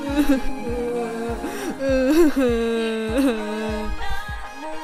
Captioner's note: crying